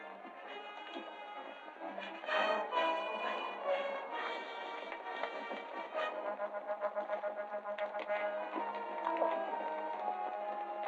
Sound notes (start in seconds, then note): 4.9 hooves clattering